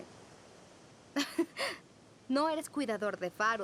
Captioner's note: chuckle